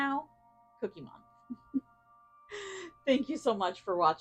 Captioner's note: giggles